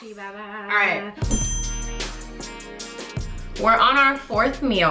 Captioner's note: sharp chime noise; upbeat music